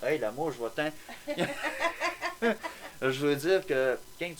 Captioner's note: laughter